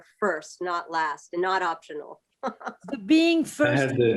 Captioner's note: laughter